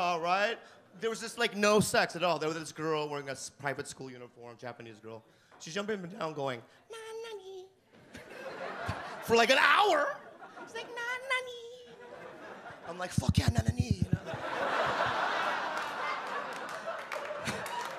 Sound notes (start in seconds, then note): 7.4 mimics girl voice; 12.0 audience laugh